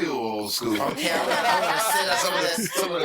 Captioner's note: all laughing